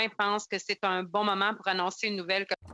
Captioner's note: speaking French